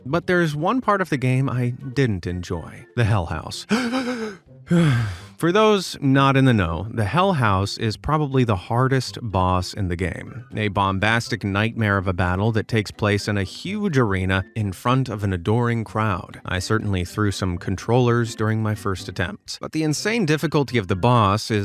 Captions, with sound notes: But there's one part of the game I didn't enjoy, the Hell House. (gasping) (sighs) For those not in the know, the Hell House is probably the hardest boss in the game, a bombastic nightmare of a battle that takes place in a huge arena in front of an adoring crowd. I certainly threw some controllers during my first attempts. But the insane difficulty of the boss